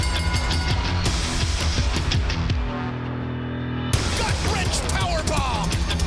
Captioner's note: bell ringing